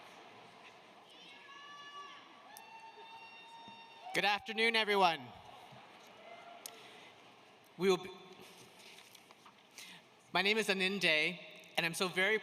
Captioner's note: applause